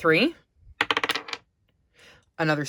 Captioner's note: sound of dye landing on the desk